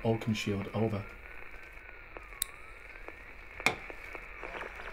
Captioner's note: radio buzzing